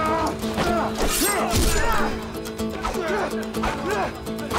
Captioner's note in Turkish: Kılıç sesleri